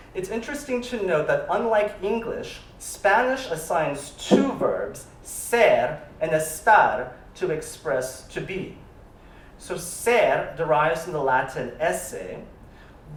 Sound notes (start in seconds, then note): 5.4 spanish